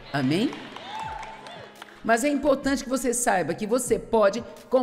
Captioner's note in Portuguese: audiência aplaude